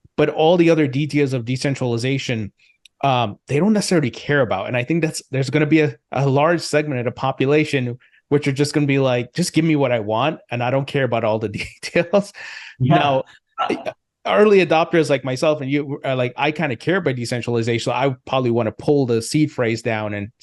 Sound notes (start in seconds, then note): 11.5 laughs